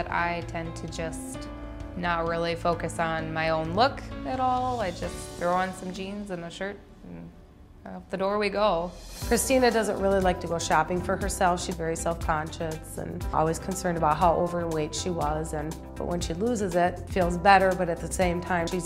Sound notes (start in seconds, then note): none